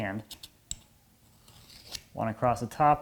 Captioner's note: metal on metal scraping